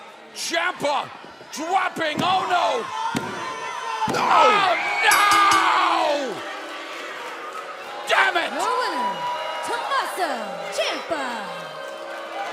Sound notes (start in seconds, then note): 5.0 bell ringing